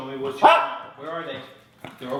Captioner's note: dog barks; speaker is drowned out by barking dog